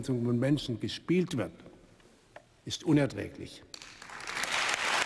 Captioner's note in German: Beifall im ganzen Hause